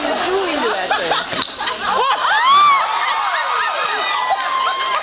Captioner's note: popping sound as bottle cap flies off